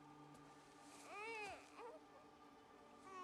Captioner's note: baby crying